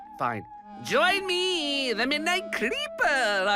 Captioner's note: creepy voice